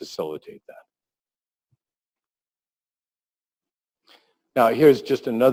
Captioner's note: pause